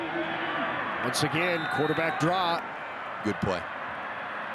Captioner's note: referee blows whistle